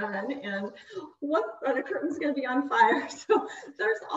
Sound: chuckles

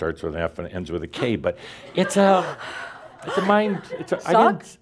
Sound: gasps; laughter

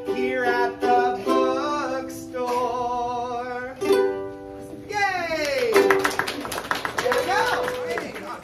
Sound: applause

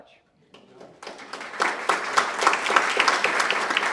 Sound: applause

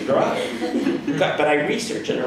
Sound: audience laughs

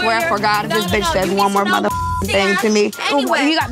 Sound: beep

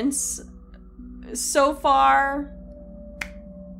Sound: hand Clap

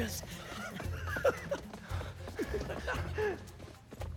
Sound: laughs

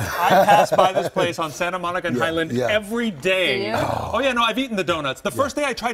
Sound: laughter

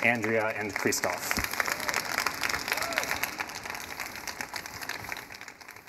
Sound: audience applauding

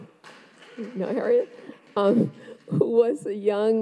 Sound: audience applauds

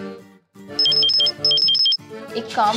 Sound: phone Ringing

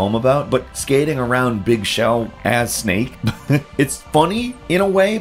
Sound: laughs

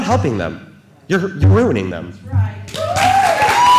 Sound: cheers and applause

